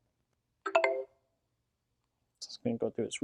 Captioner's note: beeping